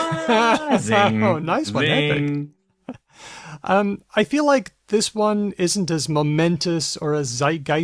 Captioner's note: laughs